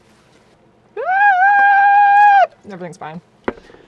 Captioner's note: cheering